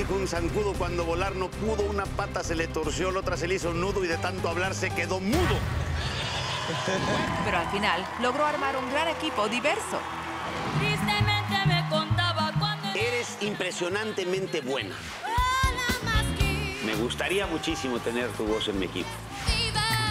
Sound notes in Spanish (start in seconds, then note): 6.2 risas